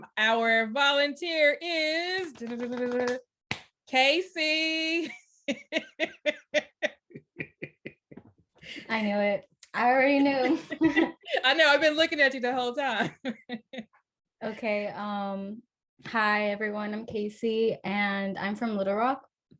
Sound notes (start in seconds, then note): 5.0 laughter; 10.2 laughter; 13.0 laughs